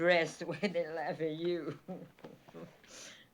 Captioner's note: chuckles